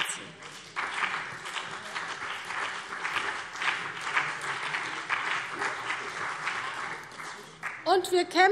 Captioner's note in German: Beifall BÜNDNIS 90/DIE GRÜNEN und vereinzelt CDU